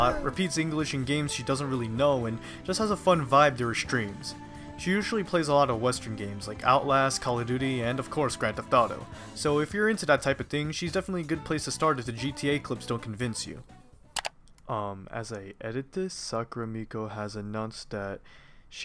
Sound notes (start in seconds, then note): 14.1 mouse click, music stops